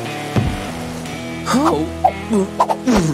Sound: moaning

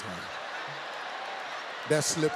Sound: audience laughs

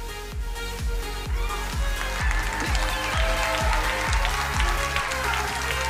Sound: crowd cheering and applauding

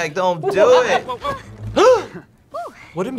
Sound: gasping

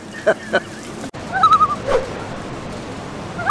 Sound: chuckles; loon call

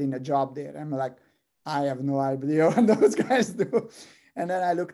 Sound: laugh

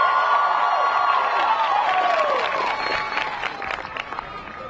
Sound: audience cheering; audience clapping

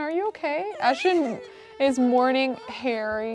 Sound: Ashton crying

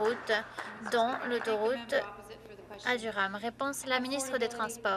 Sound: applause

